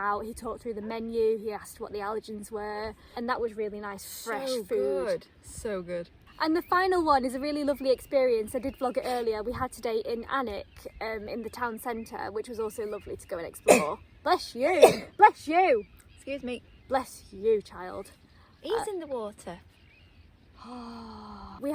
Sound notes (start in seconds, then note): 14.7 sneezes; 20.5 noises of awe